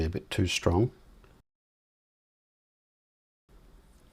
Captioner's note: silence